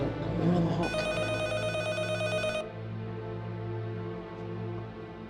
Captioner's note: phone ringing